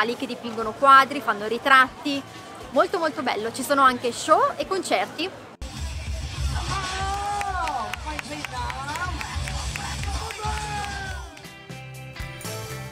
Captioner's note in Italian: Applauso